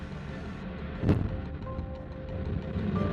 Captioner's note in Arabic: اللهب يطن